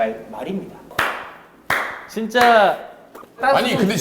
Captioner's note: impressed applause